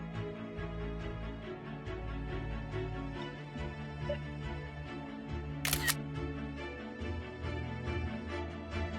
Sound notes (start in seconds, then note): 5.6 camera shutter sound